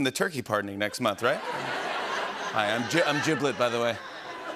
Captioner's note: laughter